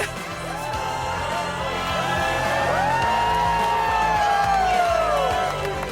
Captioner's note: crowd applauding and cheering